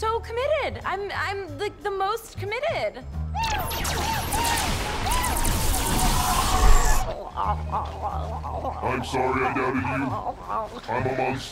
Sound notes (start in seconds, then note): 3.3 exclaims; 7.0 grunts